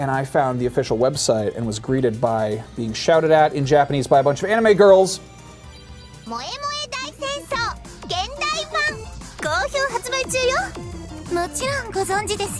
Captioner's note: japanese girls speaking